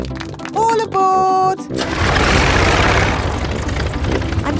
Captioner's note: plane engine starts